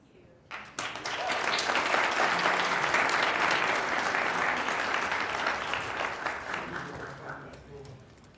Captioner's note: applause